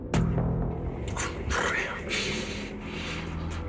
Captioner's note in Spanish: Entre dientes